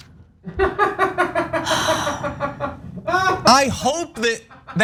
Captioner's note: laugh